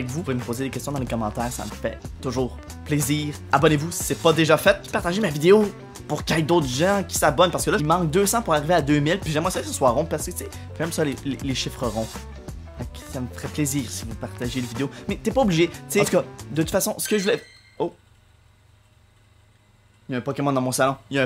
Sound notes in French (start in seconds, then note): 16.8 son de pokémon sur mon iPad